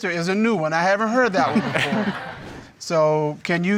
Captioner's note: audience laughing